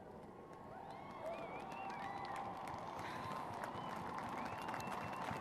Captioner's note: applause